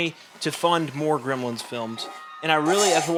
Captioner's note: Desmond slurps drink loudly